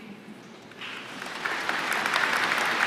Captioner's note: applause